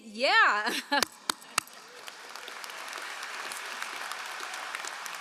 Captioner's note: all applauding